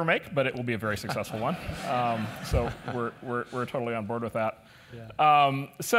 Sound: laugh

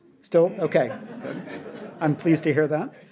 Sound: audience laughs

